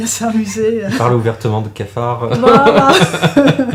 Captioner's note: laughs